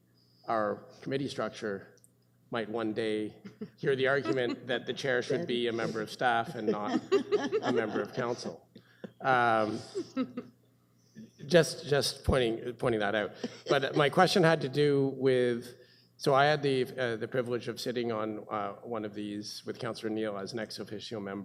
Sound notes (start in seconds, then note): 9.0 presenters laughing